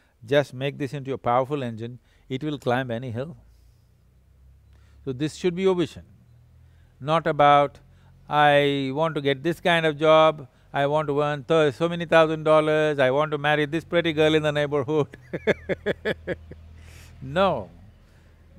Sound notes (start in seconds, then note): 15.1 laughs